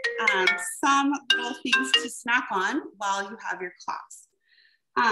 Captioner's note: phone rings